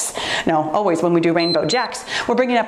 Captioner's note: timer beeps